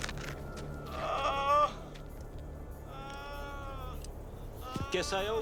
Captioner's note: drug runners groaning